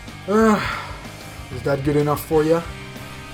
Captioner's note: sigh